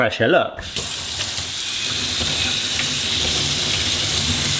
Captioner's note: water running